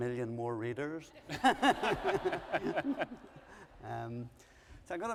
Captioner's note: laughter